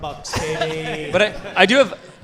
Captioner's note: audience laughing